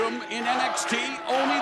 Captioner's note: bell ringing